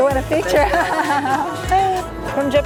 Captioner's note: laughs